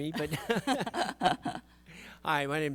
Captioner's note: panelists laugh